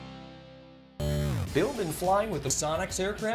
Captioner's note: digital buzzing